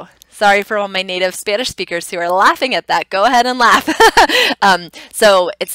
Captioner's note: laughing